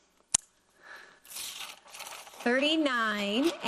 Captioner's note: paper rustling